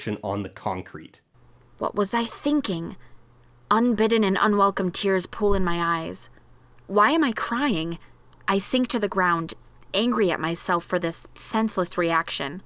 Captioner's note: reading aloud from the novel